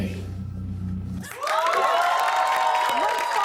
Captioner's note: cheers and applause